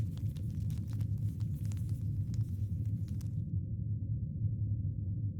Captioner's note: cords rattling